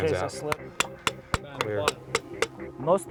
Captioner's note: hammering